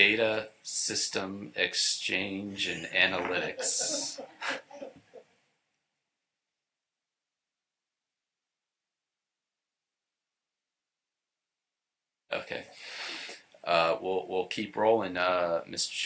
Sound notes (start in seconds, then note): 5.6 laughter